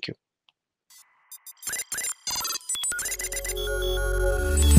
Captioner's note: console beeping; gentle music